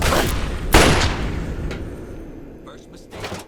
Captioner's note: transition into gunfire